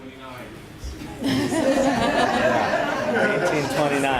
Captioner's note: laughter